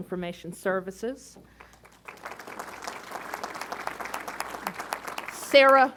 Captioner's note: applause